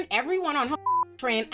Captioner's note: beep